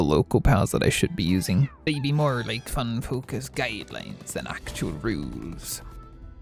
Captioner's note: pirate accent